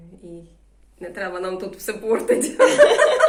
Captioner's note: laughter